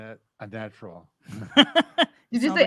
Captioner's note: chuckles